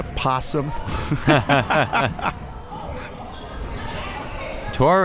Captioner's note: both laughs